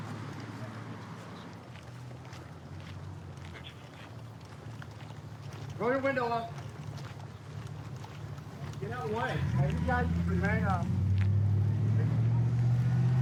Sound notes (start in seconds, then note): 1.1 footsteps; 11.4 truck driving